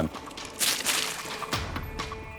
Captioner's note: water puddle splash, leaves